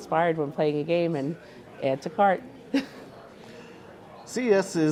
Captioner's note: chuckles